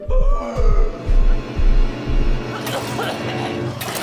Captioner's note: bucky gasps